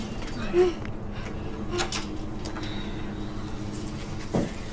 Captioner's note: moaning